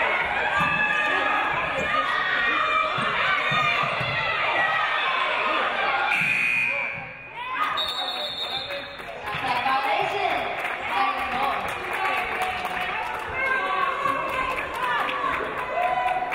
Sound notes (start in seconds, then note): 6.3 game buzzer buzzes; 7.6 referee blows whistle